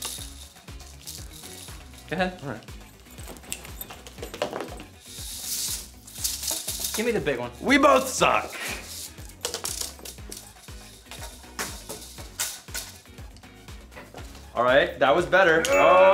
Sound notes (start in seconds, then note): 4.4 hula hoop rattles; 15.6 bell chimes